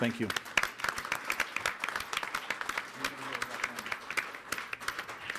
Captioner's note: audience clapping